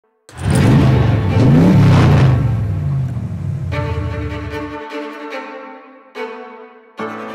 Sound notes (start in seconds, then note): 0.3 engine revving; 0.3 dramatic music; 3.7 upbeat music